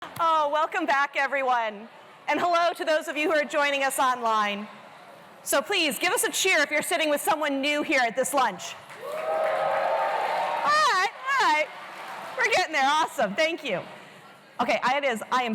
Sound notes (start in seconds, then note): 8.9 cheers